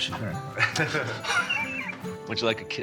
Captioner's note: both laugh